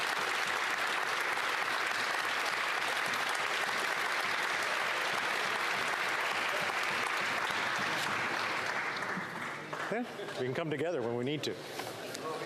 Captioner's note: applause